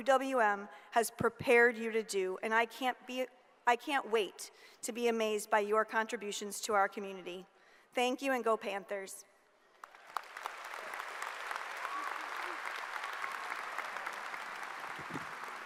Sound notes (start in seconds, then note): 9.8 audience applauds